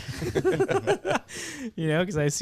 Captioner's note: laughing